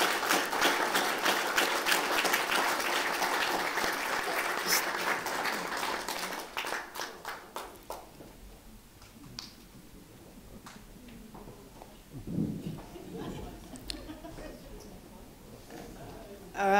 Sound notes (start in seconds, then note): 2.1 applause